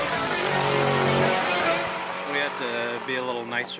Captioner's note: car engine blaring